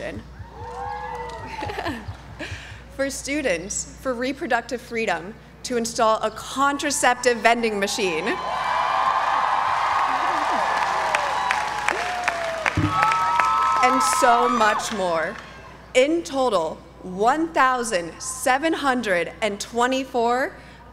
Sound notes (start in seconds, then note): 0.5 applause; 1.4 laugh; 8.6 applause